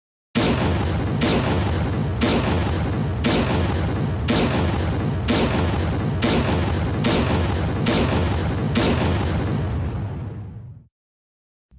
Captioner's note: explosion